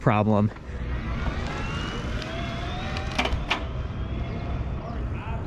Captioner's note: motor humming